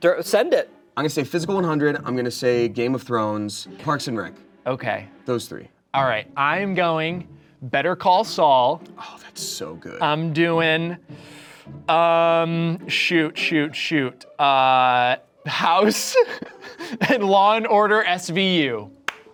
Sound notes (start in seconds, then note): 15.5 laughs